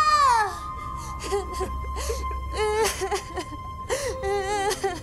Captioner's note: all sobbing